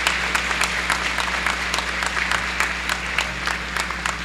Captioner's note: applause